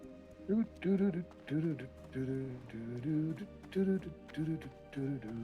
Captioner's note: humming